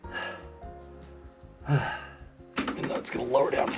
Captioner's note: sighing